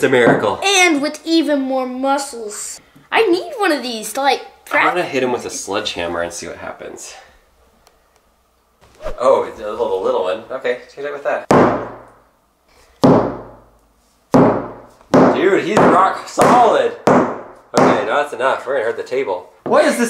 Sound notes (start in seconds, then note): 13.5 hammering; 17.3 hammering